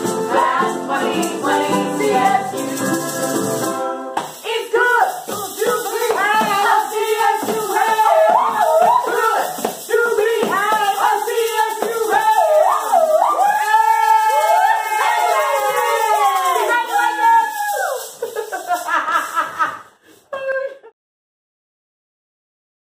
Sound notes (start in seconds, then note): 13.5 all cheering; 18.1 all laughing